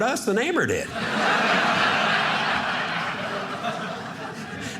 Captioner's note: audience laughing